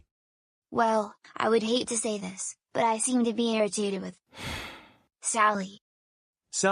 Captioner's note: sighs